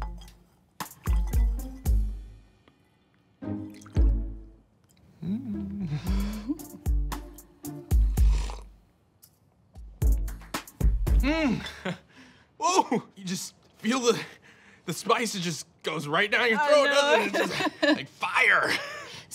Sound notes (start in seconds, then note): 5.6 chuckles; 7.9 slurps; 11.4 chuckles